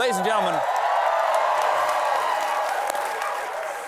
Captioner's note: cheers and applause